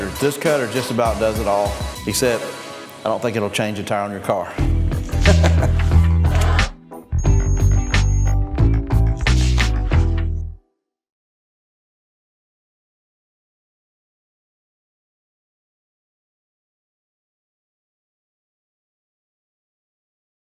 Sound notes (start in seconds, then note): 5.0 laughing; 6.7 easy mood music